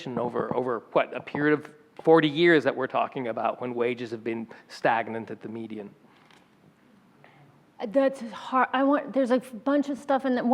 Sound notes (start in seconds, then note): none